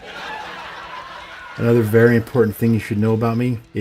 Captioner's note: laughter